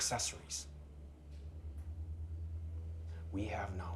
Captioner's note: crickets chirping; tense music